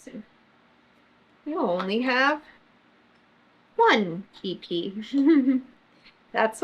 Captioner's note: laughs